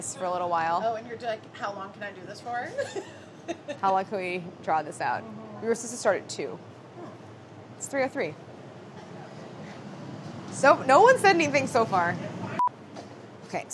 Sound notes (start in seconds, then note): 2.8 laughing